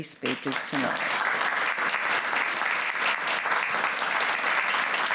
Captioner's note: applause